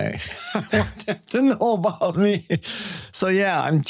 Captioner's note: chuckles